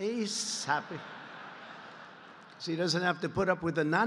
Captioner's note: laughter